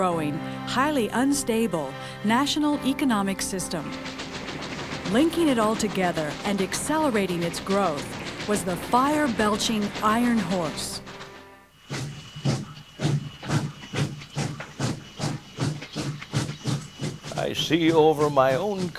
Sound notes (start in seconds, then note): 11.9 locomotive noise